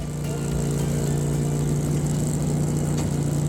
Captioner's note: motorbike engine